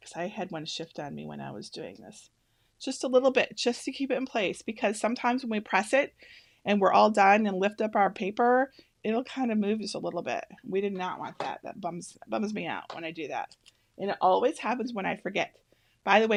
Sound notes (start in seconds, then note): none